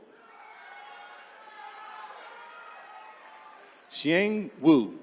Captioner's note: attendees cheering